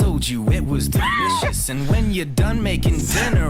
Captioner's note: laughs